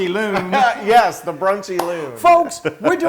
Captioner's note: laugh